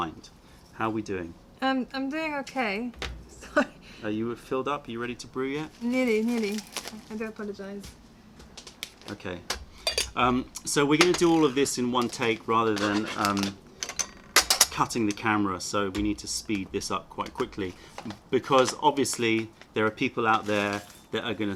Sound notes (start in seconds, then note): 3.4 laughter